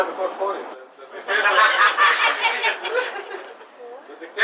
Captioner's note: laughter